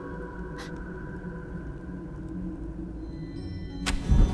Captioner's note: gasps